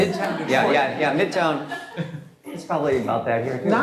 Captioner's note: laughter